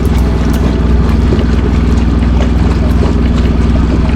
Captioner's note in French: Son du moteur Yanmar diesel